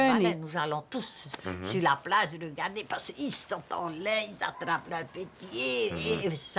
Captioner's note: speaking French